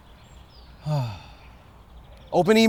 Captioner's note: sigh